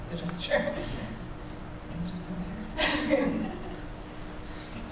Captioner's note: laughs